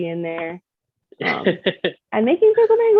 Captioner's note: laughing in backgroung